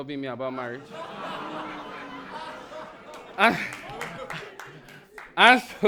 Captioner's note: audience laughs